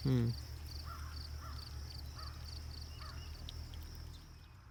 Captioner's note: crow cawing